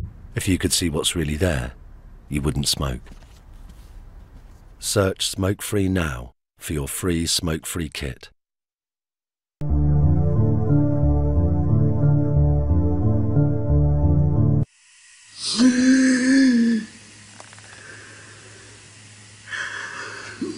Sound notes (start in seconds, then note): 15.2 man gasps